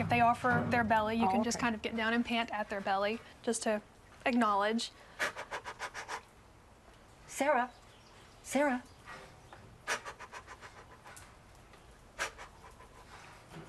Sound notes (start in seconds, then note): 5.2 pants